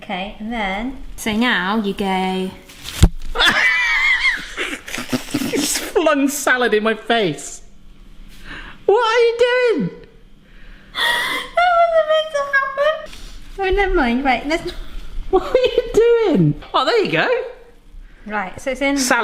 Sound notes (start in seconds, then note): 3.4 laughing; 3.4 laughs; 11.0 laughs